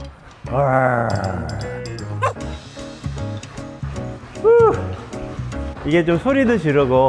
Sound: bark

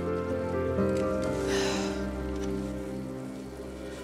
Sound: sighs

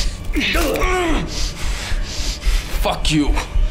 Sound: crunching

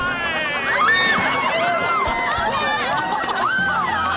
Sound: cheering

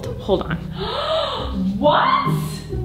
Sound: gasps

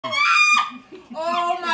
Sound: woman screaming

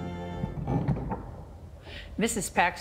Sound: pews clatter and click

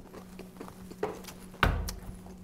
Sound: bang!

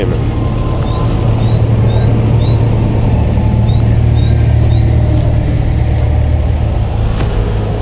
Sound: truck engine working

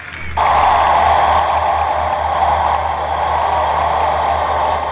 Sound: crowd Booing!

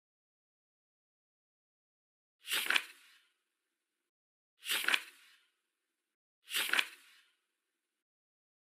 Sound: page flip sound

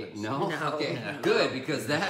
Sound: laughing

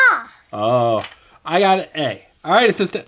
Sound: voiceover

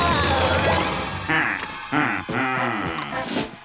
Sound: laughing

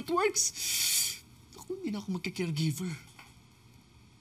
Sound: inhales

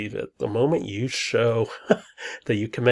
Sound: laughs

